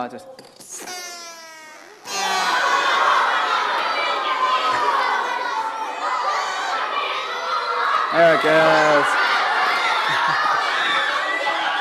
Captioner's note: laughter